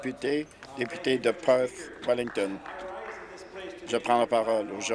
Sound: applause

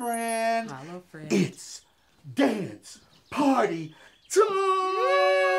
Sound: bell tinkles; birds chirping

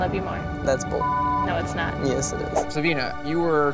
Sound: audio beeps

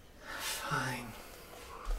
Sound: sighs

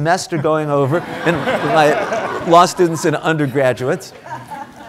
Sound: audience applauding

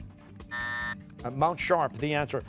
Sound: buzzer

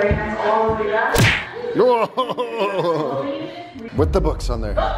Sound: punching sound effect

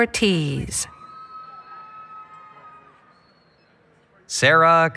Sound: applause, Cheering

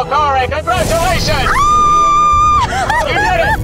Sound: screaming

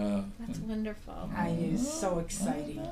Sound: voiceover

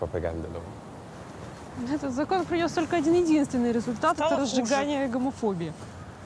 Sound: speaking in foreign language

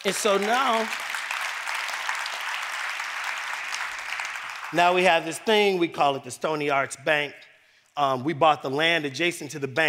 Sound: applause

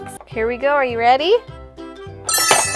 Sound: voice-over

